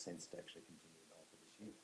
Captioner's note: speaks away from mic